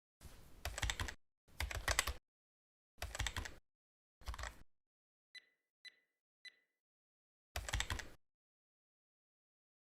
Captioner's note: typewriter clicking sound